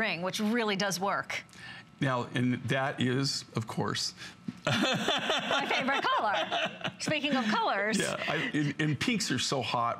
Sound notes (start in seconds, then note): 4.6 laughter